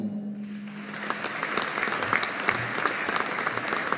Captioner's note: audience applauding